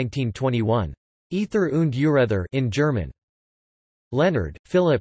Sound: in German

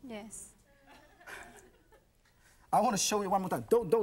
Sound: audience laughs

